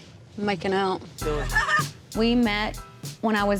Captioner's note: laughs